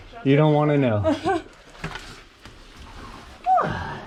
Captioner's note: nervous laughter